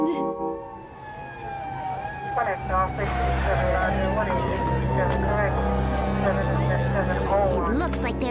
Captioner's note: sirens wailing